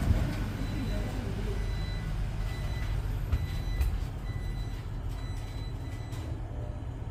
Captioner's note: door buzzer